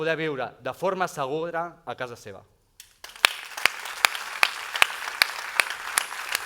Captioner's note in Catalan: aplaudiments